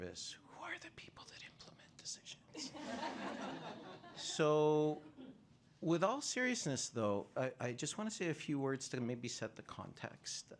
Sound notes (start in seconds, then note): 2.6 laughter